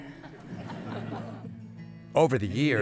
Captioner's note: laughter